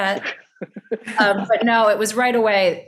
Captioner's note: laughing